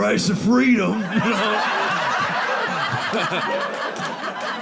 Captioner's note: audience laughing